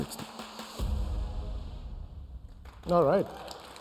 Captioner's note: applause